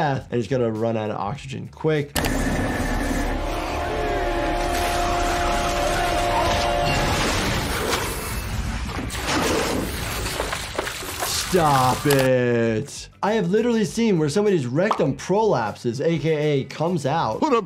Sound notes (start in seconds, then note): 2.1 tense music; 2.2 pump churns; 7.4 water roars